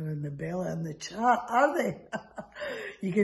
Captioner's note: laughs